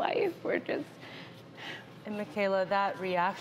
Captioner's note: sighs